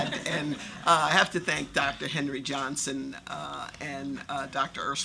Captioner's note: laughter